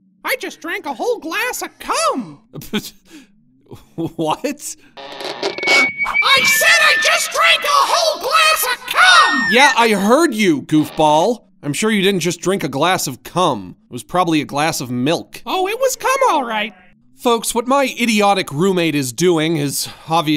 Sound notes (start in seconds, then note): 5.0 megaphone whines